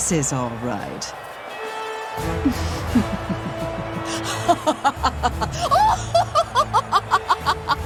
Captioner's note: laughing